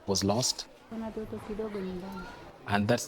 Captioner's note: speaking in foreign language